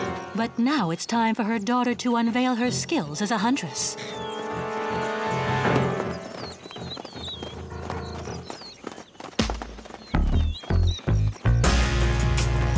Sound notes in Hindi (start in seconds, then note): 4.4 तनावपूर्ण संगीत; 7.1 चिड़िया चहचहाते हैं